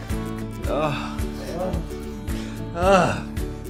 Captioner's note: groans